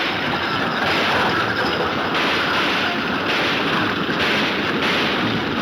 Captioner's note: gunshots banging